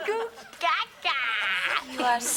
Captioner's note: baby sounds